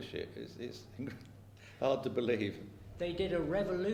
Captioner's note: laughs